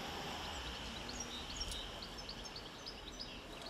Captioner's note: birds chirping